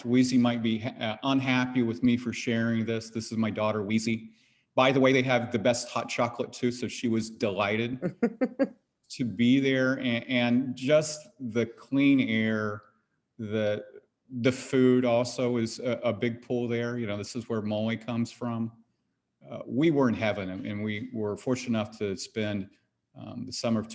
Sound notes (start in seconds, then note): 8.0 laughs